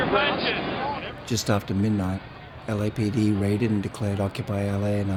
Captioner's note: voiceover